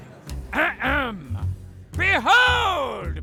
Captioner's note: clears his throat